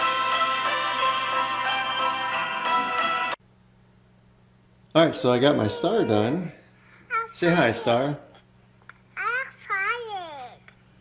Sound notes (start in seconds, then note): 5.1 star whining